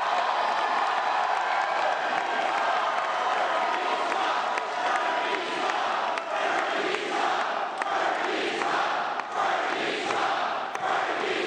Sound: cheering

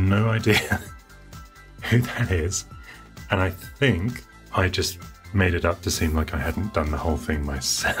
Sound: laughs

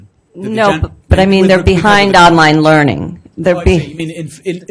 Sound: voiceover

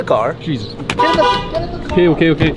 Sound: car horn honks

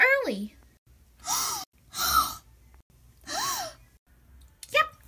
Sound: all gasp

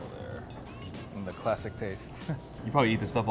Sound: chuckles

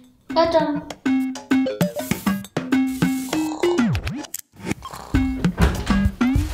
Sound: snoring

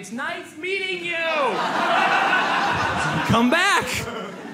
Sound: audience laughs

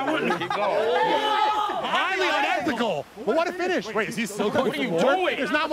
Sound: laughter

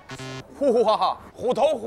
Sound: laughing

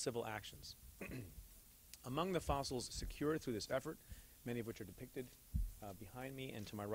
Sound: clears throat

